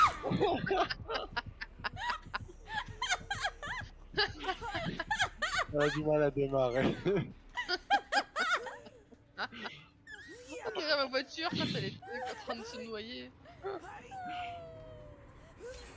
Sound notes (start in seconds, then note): 0.0 screams; 3.5 laugh; 14.7 laugh